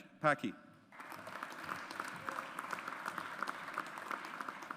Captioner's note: audience applauds